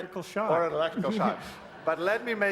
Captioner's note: laughter